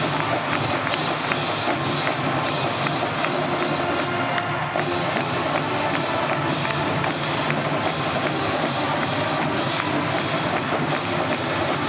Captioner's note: cheers & Applause